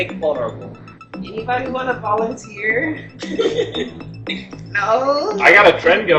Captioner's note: giggles